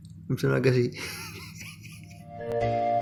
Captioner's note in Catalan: Riu